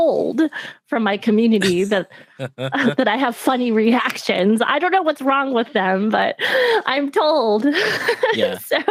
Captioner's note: laughs